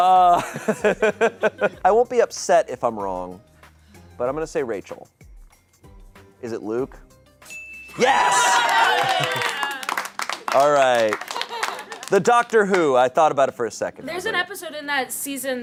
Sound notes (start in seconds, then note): 0.3 laughs; 0.4 audience laughing; 7.4 bell dings; 7.9 audience cheering